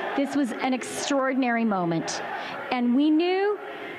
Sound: chanting

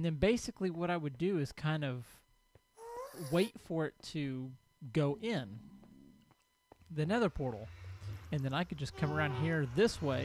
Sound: ghast squalls

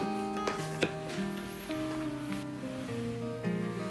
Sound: none

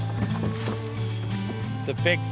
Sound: bangboard thumping; corn rustling

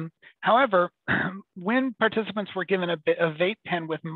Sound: clears throat

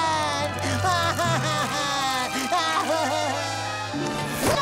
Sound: crying

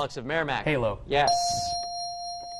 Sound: ding

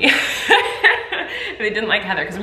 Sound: laugh

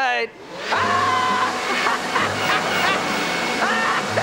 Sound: laughing

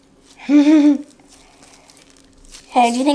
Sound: assistant giggles

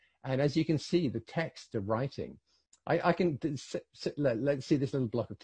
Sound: none

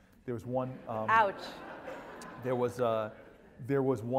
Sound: laugh

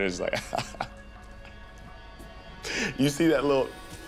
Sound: laughs

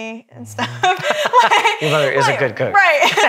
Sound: all laugh

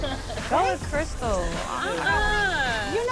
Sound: Crystal exclaims

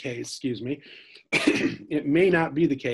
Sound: coughs

